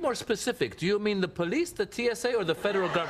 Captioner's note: laughter